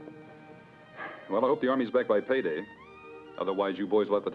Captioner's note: sighs